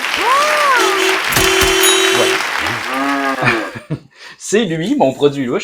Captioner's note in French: Sons d'applaudissements, klaxon de voiture, cloche, vache